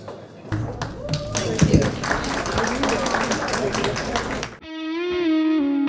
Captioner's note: applause